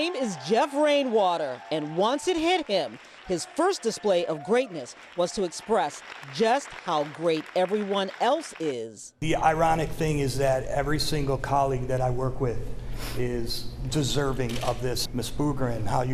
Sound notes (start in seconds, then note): 2.8 cheers and applause